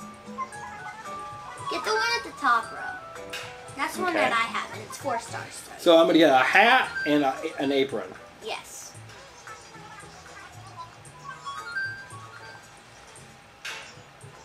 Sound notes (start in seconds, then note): 8.9 Able Sister chattering; 11.7 bells chiming